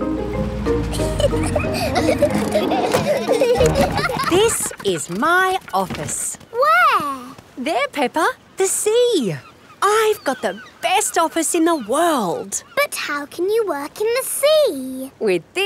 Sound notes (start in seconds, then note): 0.8 children giggling